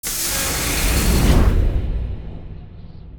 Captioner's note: mechanical hissing